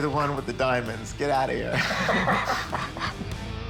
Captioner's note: both laugh